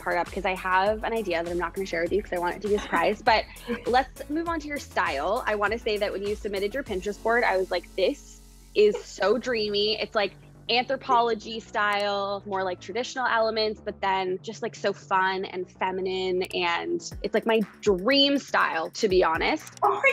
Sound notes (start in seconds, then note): 2.6 laughing; 20.0 laughing